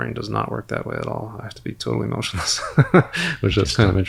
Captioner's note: laughs